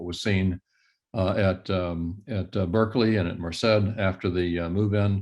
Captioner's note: indistinct conversation